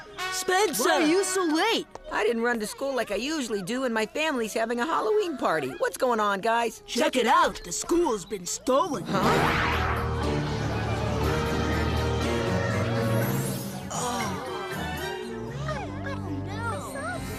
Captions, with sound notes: - Spencer. - Why are you so late? I didn't run like I usually do, and my family's having a Halloween party. - What's goin' on? - Check it out. - The school's been stolen. - Huh? - Oh. - [students murmuring]